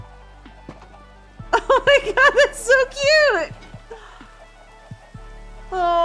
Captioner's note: laughing